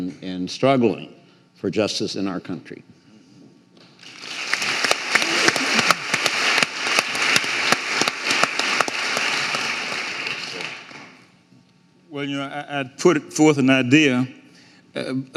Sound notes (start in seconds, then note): 4.0 audience applauding